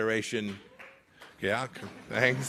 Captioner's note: applause